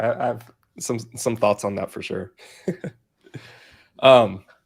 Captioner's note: laughs